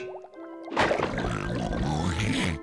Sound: snorting

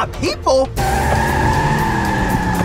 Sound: screeching tires

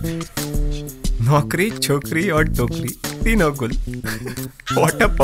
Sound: mocking

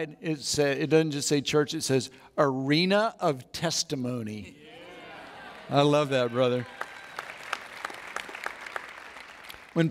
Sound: audience Applauds

